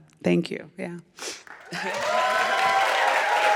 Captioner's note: applause